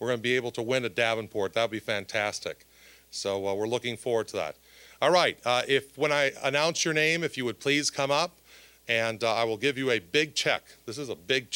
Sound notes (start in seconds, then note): none